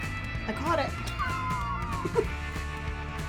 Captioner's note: laughing